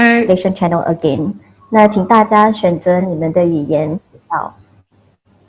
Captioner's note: speaks in foreign language